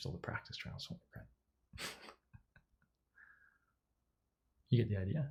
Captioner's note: laughs